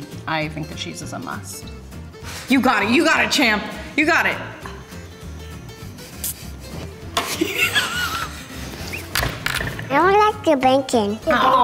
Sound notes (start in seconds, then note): 7.3 laughing